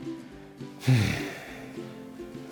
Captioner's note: exhale